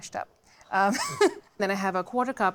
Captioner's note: laughs